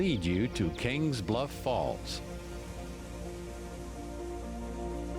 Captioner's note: water rushing